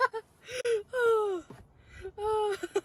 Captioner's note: laughs; still laughing